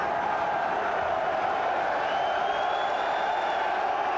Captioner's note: crowd cheers